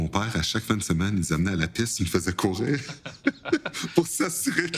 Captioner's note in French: rires